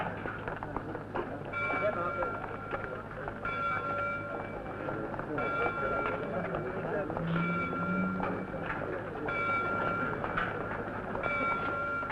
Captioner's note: church bell ringing, indistinct voices and footsteps